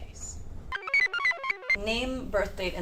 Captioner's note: computer chirps